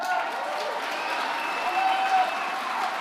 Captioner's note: applause